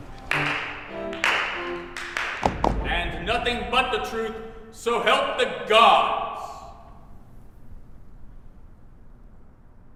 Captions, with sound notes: (girls clapping) (Law & Order-esque transition sound) - ...and nothing but the truth, so help the gods.